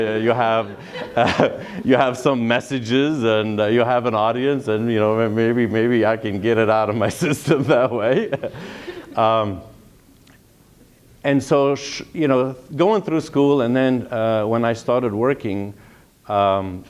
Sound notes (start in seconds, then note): 8.8 laughter